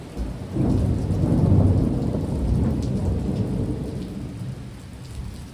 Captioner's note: loud clap of thunder